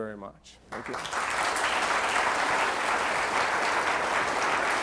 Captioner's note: audience applauds